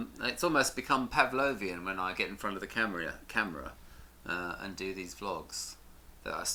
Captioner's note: none